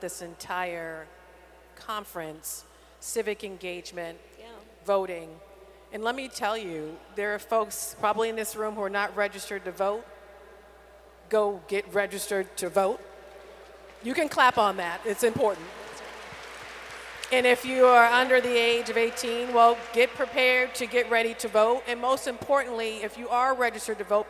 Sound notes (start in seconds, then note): 12.7 applause